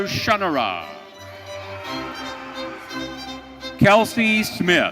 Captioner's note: audience cheering